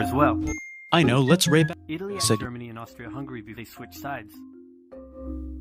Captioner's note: ding